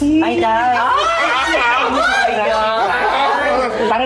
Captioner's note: laughing